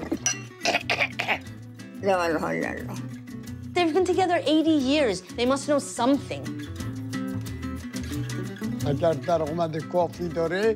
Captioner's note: speaking foreign language